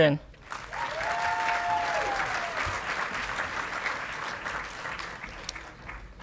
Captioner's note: audience clapping and cheering